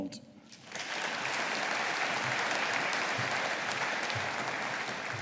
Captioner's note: audience applauding